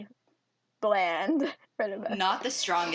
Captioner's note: laughs